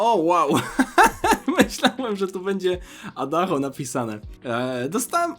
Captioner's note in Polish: śmiech